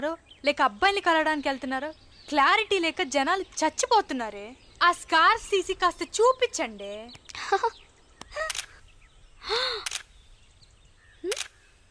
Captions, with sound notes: ..girls are going to offices or to meet their boyfriends. So, remove the scarves and show your faces. (Laughs) (Camera clicks) (Camera clicks)